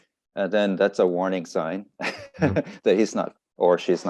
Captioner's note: laughs